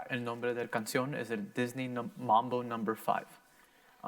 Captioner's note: in foreign language